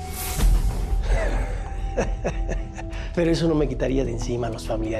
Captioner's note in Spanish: Ríe